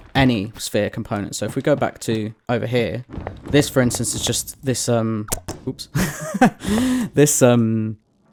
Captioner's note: laughs